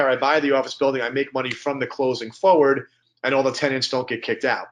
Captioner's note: snaps fingers